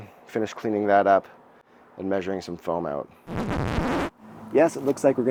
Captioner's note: record scratch